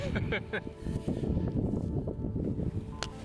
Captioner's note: laughter